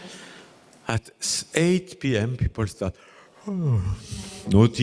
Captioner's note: yawn